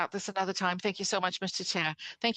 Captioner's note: speaking in French